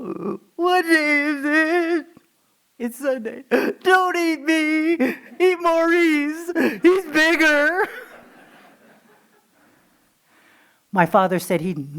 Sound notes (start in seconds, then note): 2.9 crying noise; 10.9 laughing